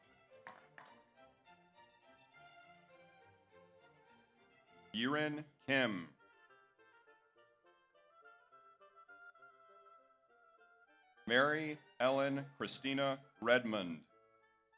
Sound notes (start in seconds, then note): 0.4 audience applauds